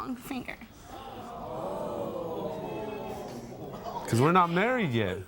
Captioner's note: crowd gasping